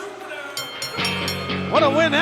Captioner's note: bell rings